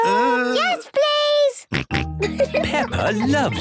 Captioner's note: snorting and giggling